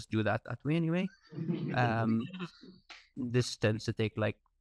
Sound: audience laughing

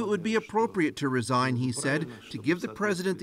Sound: speaking foreign language

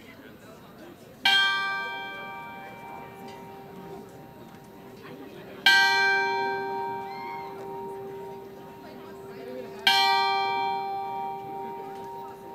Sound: bell rings 3 times

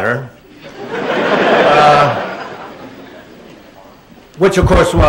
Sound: laughter

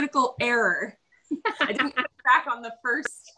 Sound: laughs

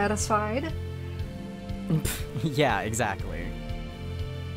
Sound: laughing

